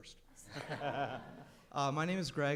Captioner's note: crowd laughs